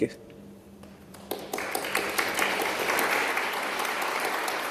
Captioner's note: applause